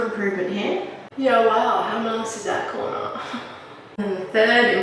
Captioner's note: laughs